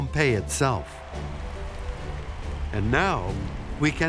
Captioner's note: applauses in distance